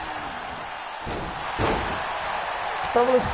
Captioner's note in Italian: Applauso